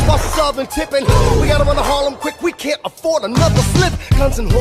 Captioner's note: boom